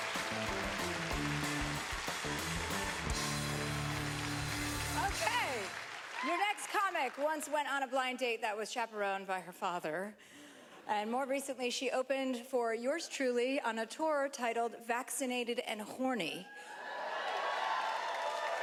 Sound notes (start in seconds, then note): 2.4 cheering; 2.4 upbeat music; 16.5 cheering